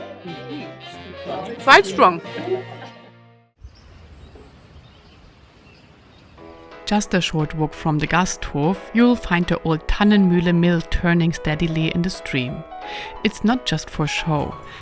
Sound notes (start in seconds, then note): 3.6 birds chirping